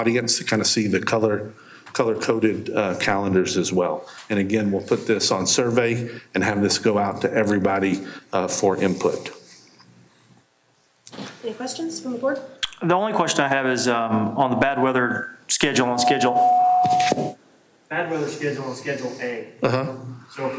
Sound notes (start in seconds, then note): 15.7 microphone feedback; 15.8 echos